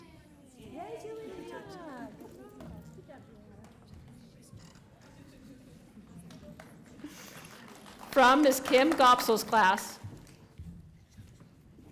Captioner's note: applause